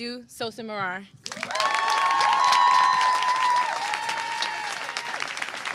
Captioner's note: applause